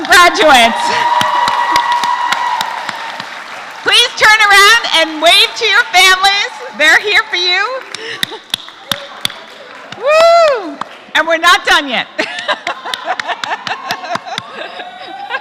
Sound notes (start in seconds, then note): 9.4 applause; 12.2 laugh